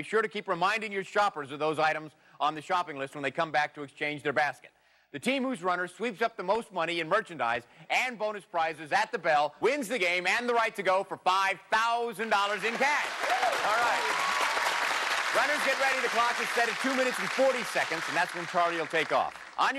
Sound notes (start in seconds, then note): 14.2 applause